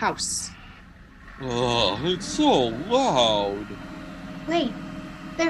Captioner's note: moaning